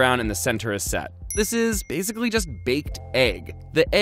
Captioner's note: dings